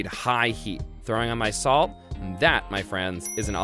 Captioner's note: dings